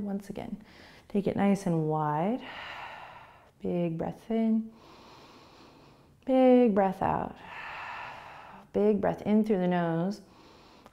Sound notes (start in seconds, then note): 4.8 inhaling; 7.4 exhaling